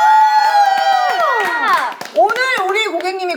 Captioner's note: clap